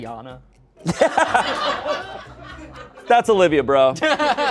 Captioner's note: everyone laughs